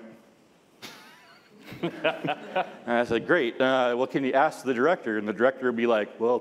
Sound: laughs

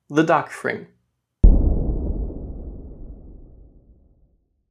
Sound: ominous Sound

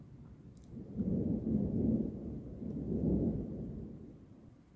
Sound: quiet thunder

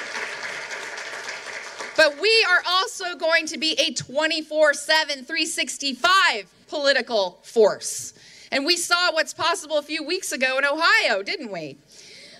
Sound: applause

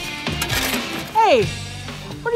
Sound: scraping

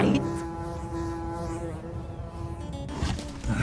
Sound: buzzing; plucky music; grunting

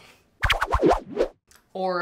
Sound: ricochet Sound Effect

